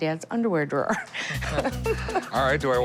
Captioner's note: laughing